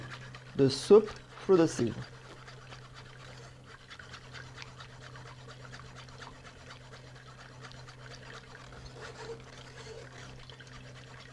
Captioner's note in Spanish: sonido batiendo